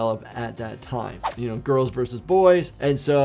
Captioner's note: video whooshes